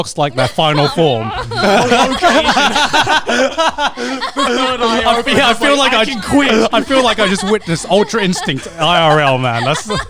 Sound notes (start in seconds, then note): 2.9 everyone laughing